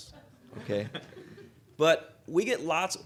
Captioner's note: audience chuckling